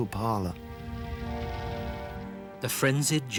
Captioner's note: fires crackling; stirring symphonic music